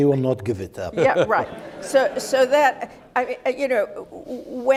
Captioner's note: audience laughing